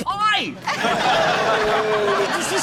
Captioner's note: laughter